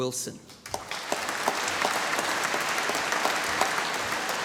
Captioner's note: applause